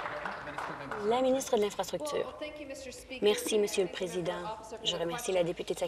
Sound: applause

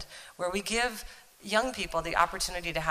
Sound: none

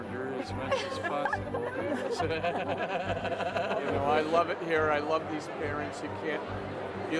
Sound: laughter

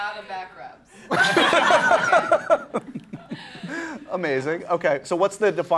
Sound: laughing

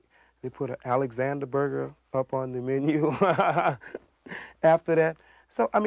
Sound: laughs

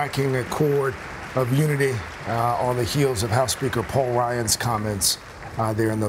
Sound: applause

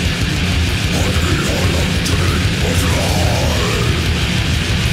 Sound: inhuman growling

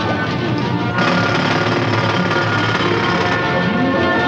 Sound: drilling

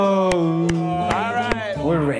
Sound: cheering

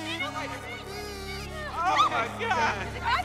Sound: <i> woman screaming</i>

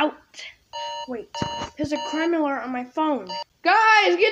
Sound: phone buzzes

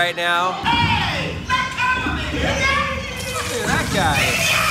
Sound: Roger Rabbit screams

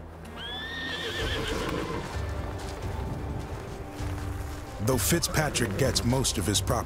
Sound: tense music; horses neighing

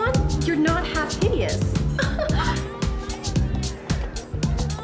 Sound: giggles

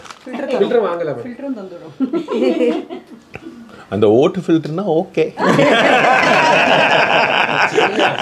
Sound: laughs

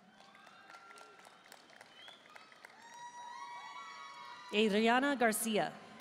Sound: audience cheering and applauding

